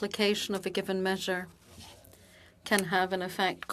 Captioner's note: speaking French